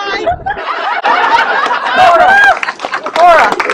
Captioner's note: laughter and clapping